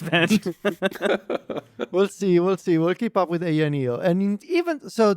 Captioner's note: laughs